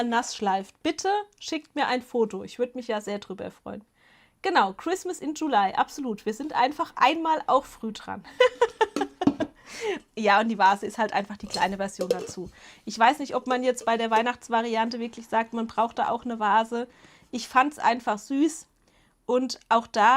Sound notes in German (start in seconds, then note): 8.3 Gelächter